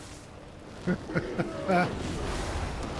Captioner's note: laughs